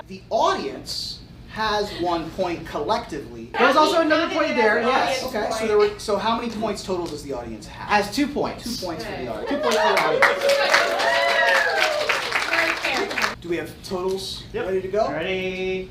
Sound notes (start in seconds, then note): 9.4 audience applauds